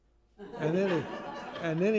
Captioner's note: laughter